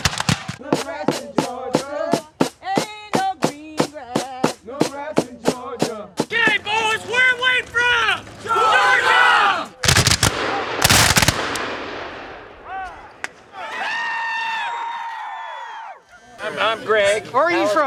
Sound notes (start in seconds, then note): 9.8 gunshots cracks; 13.4 people cheering